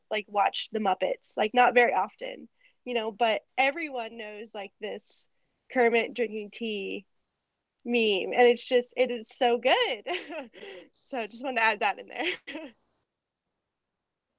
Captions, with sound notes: like watch the Muppets like not very often but everyone knows like this Kermit drinking tea mean and it's just it is so good. (laughing)